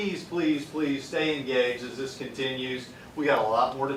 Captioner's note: none